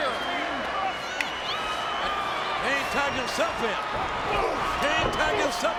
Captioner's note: applause